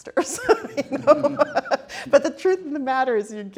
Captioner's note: laughs